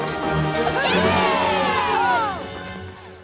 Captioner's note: all cheer